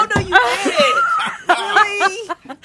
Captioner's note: laughs